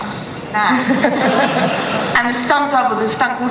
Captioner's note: laughter